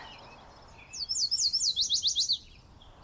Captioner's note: bird singing